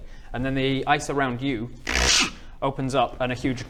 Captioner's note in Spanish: crrrk